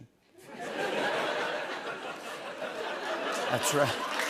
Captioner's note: laughter